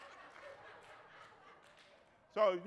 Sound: crowd laughs

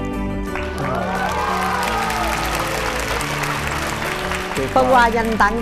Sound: audience applause

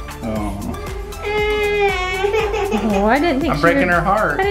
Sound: crying

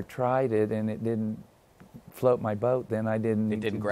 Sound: none

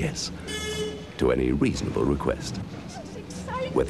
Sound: honk!

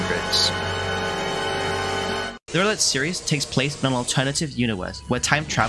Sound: dramatic sounds

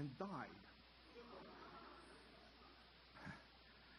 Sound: audience gasping and laughing

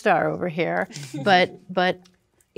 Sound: chuckling

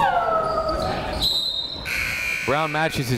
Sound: whistle

